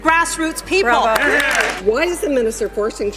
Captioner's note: applause